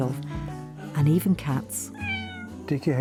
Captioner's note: cat meows